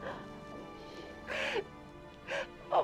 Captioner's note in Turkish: Ağlama sesi